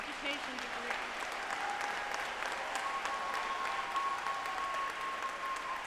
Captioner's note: audience applauding